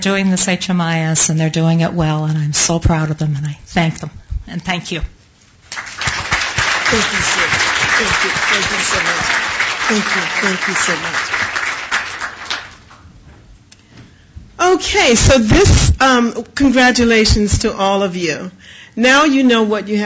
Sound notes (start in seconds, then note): 5.6 applause